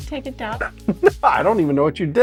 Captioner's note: laughter